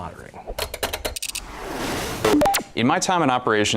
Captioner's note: electronic clicking; whoosh